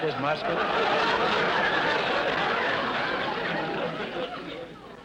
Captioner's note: audience laughter